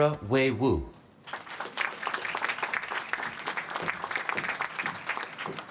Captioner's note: applause